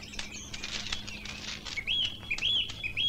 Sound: birds Chirping

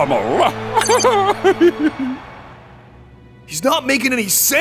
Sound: laughing

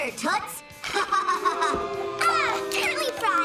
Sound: laughing; audience booing

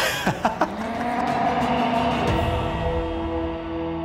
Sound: laughs; roars

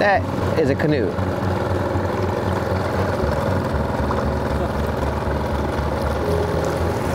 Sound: engine droning; gentle music continues

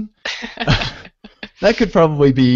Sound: laughter

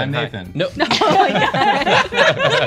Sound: laughter

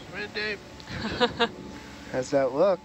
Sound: woman chuckling

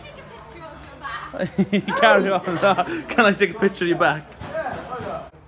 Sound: laughing

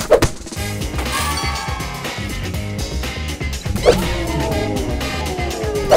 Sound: bell rings; crowd cheering

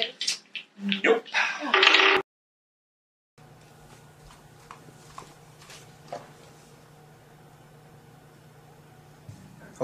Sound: sighs

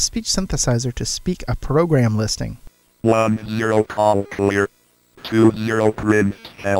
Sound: computer voice

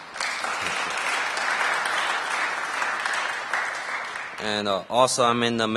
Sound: applause

